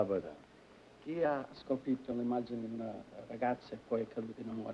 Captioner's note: speaking italian